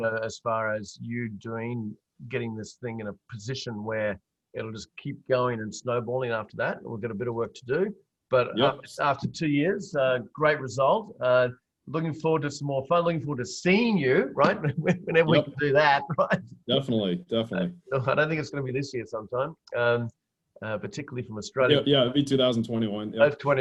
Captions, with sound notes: as far as you getting this thing in a position where it'll just keep going and snowballing after that, and we've got bit of work to do. But after two years, great result. Looking forward to some more, I look forward to seeing you, right? (laughs) Whenever we can do that, right? - Definitely, definitely. - I don't think it's gonna be this year sometime, particularly from Australia. - Yeah, it'll be 2021.